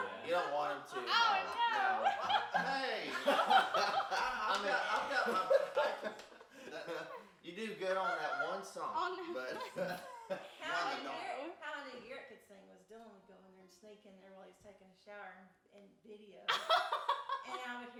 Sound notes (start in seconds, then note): 3.7 group laughs